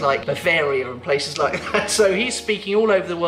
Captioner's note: laughing